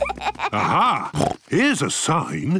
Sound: children giggling; snorts

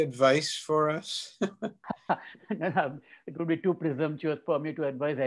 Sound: chuckles

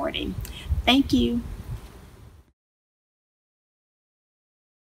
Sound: air whooshing

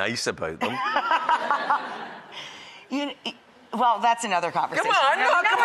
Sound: laughing

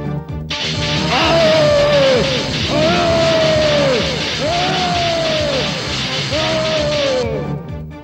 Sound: groans

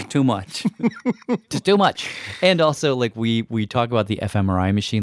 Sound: laughs

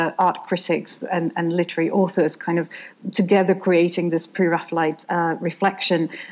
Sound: none

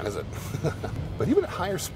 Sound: laughing

